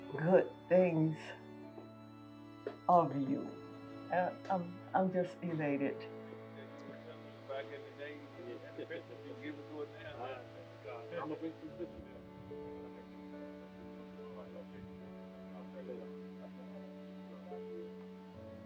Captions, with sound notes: good things of you and I'm just elated. (people chatter) (somber music)